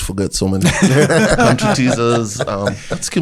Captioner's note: rires